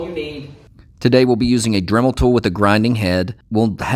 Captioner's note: voiceover